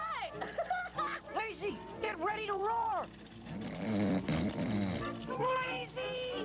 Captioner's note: laughs; snoring